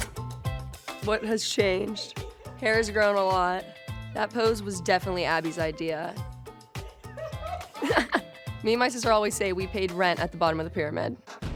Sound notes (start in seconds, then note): 7.1 laughs; 7.1 women laughing